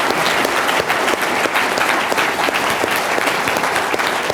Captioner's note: applause